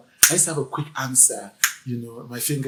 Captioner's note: snaps fingers